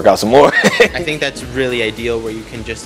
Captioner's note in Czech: laughs